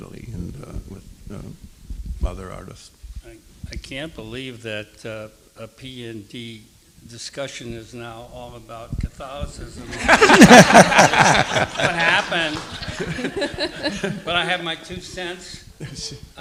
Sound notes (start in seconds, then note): 9.8 all laughing